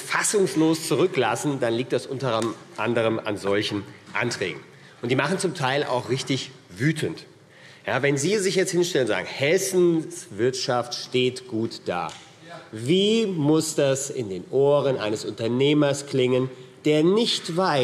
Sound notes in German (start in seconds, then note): none